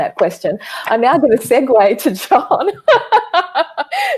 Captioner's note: laughs